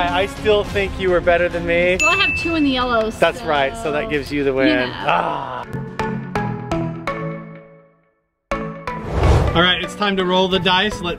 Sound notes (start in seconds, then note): 5.0 groan; 6.0 upbeat music